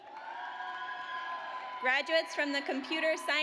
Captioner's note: audience cheers